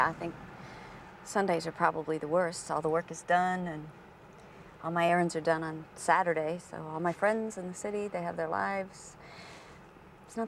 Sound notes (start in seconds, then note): none